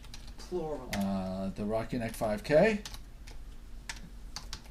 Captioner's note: voiceover